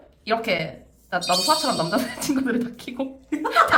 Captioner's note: laughs